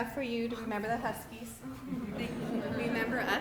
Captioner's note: laughter